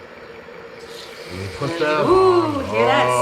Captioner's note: chicken sizzling